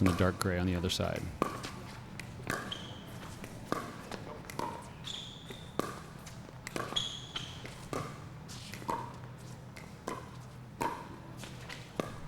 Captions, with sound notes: in the dark gray on the other side. (ball being hit) (shoes squeaking)